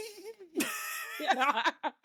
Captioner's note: laughing